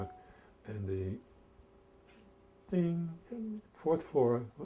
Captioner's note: ding